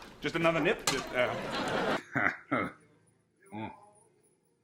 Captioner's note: laughs